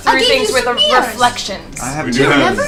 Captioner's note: gasps